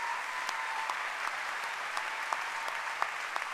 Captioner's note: applause